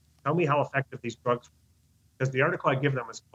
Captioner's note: speaking faintly